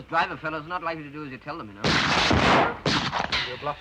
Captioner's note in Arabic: طلقات نارية